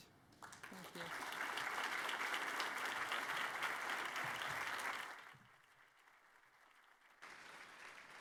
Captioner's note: applause